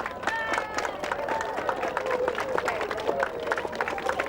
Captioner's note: applauding; crowd cheering